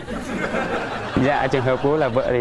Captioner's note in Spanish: risas